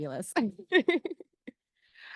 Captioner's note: giggling